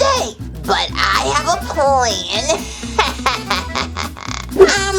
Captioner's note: laughs